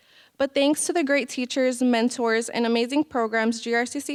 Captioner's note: none